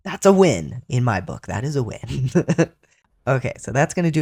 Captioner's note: laugh